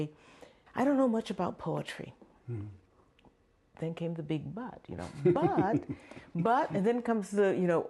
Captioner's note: laughter